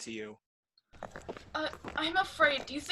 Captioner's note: footsteps on stone throughout